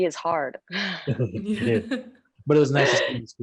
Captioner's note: all laugh